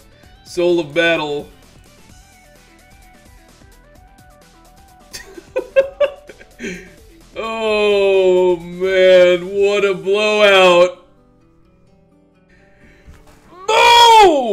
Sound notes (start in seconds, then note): 5.1 laughs